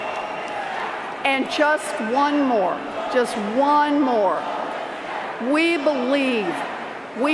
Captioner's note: cheers and Applause